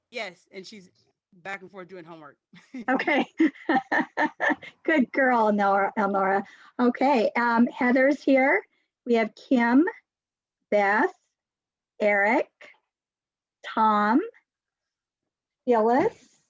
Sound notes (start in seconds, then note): 2.6 laughs